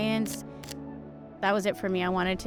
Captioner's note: camera shutter clicks